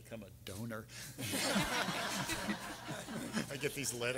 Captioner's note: everyone laughing